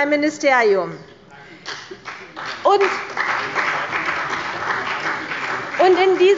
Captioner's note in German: Beifall bei der CDU und dem BÜNDNIS 90/DIE GRÜNEN